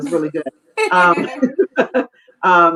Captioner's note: laughing